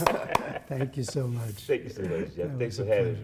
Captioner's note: applause